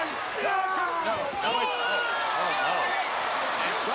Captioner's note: wrestlers grunting